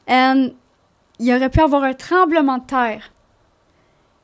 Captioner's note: in french